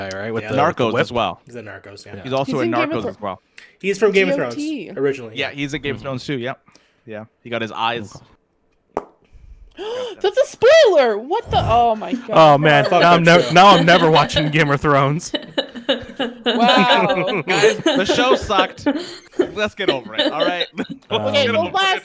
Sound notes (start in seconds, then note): 9.7 gasps; 15.3 laughter